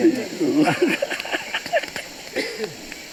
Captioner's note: laughs